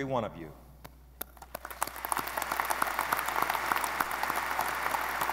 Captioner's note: audience applauding